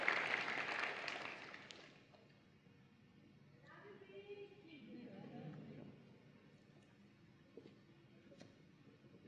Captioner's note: applause and Cheering